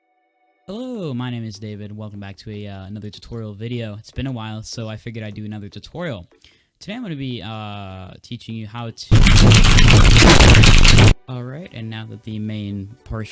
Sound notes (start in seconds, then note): 6.4 big inhale